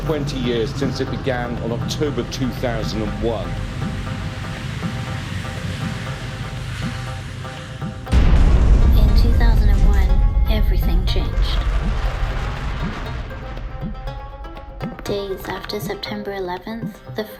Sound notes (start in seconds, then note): 3.6 light music; 8.1 plane crashing